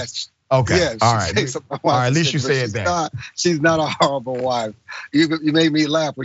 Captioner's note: laugh